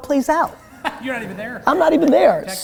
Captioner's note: laughing